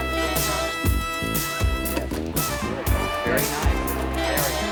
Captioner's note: indistinct chatter